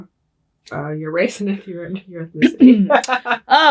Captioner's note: laughing